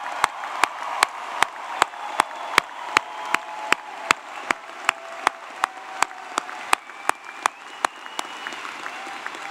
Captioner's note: applause